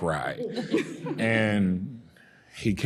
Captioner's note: panelists laughing